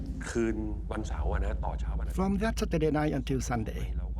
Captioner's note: speaking Thai